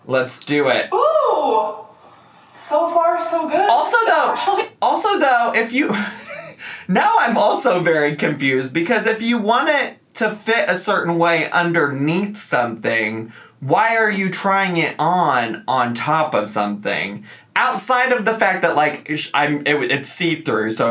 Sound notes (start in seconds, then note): 5.9 laughs